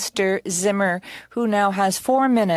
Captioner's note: speaking French